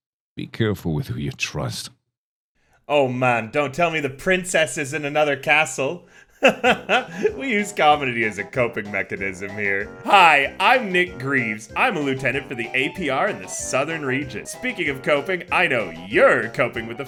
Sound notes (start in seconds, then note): 6.0 inhales; 6.2 laughs